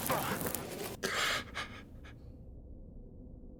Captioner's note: groans; gasps